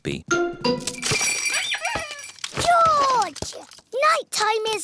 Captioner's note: bells ring and toys squeak